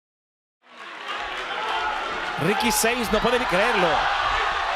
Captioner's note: applause